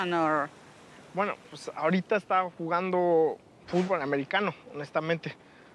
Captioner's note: speaking Spanish